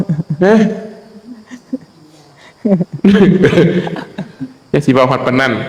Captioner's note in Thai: เสียงหัวเราะ